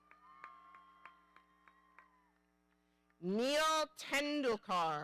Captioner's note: audience cheering